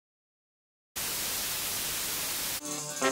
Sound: signal buzzing; dramatic music

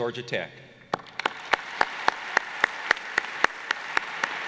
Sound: applause

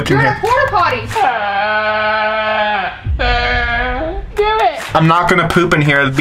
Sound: comedic groan

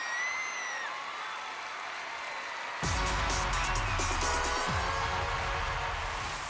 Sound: cheers and applause

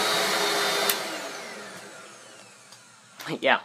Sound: click

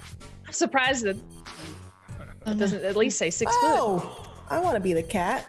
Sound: laugh

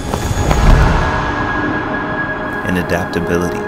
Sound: feet stomping

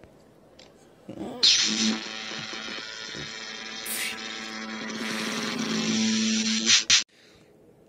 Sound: electricity

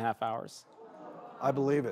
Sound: crowd gasps

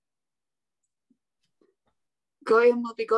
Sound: silence

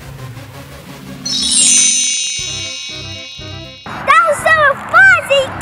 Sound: magic wand

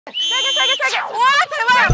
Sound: blowing the whistle

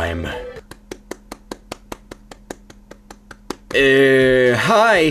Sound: condescending claps

